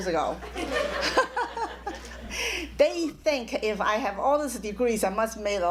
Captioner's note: laughs